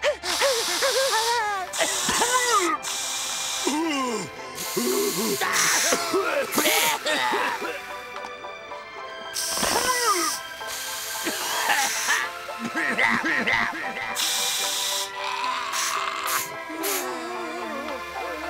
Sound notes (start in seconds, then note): 0.0 panting, spraying; 0.0 spraying, coughing; 9.3 spraying, coughing